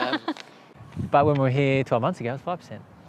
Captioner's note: laughs